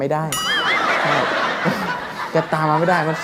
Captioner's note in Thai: หัวเราะ